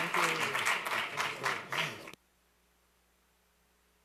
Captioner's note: applause